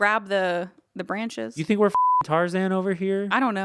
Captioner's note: beep